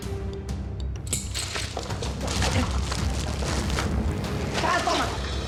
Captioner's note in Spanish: sonido con la navaja